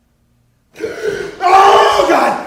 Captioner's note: Wriker gasps